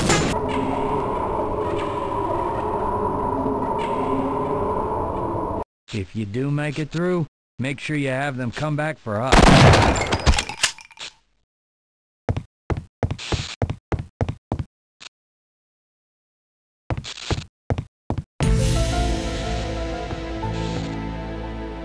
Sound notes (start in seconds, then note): 0.0 xen ambience; 9.4 shotgun booms; 10.2 shotgun reloads